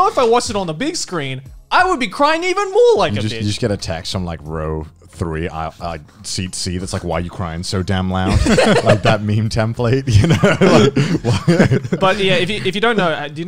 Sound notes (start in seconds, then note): 8.2 laugh; 10.0 both laugh